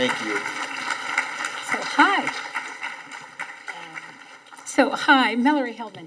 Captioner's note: audience applauding